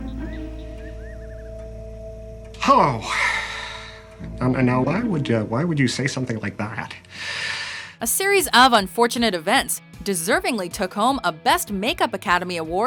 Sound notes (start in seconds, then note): 2.6 sighs; 6.9 breathes in air